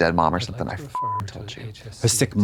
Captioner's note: beep